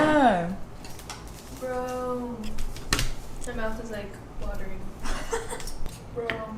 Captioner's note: laughs